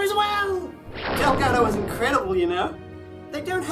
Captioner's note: booming SFX